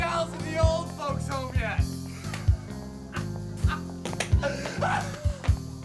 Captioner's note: laughs